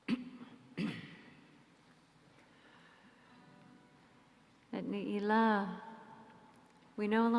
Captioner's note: clears throat